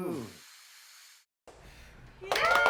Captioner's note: blows; group applauds and cheers